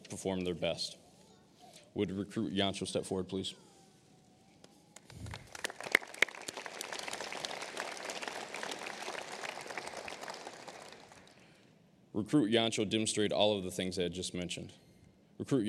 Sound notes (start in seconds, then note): 4.9 applause